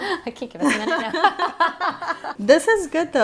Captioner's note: laughing